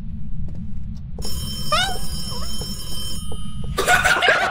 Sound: phone rings; screams; laugh

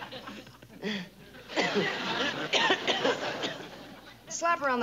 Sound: laughs; coughs

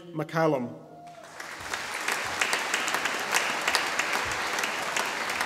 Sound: audience applauding

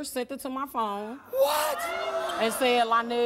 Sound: audience gasping

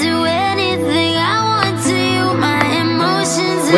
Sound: Conrad slow clapping

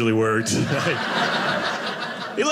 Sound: audience laughing

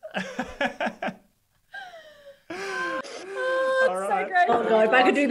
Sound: laughs

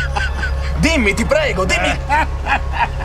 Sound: laughter; shouting; keeps laughing

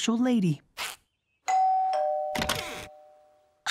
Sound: doorbell ringing

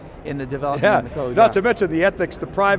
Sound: laughs

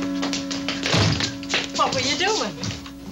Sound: door thudding

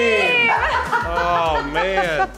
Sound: laughs

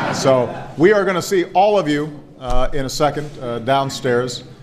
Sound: laughter

